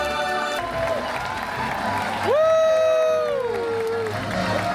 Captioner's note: cheering